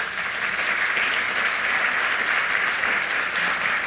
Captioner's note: audience applauds